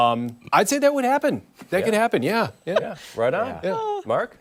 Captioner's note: laughter